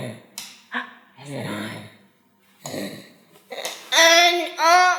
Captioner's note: mom gasps